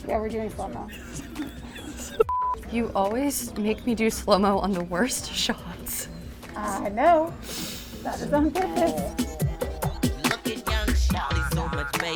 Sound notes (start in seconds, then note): 2.2 beep; 8.0 upbeat music